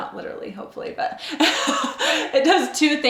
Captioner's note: laughing